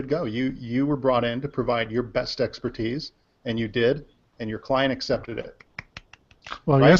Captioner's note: claps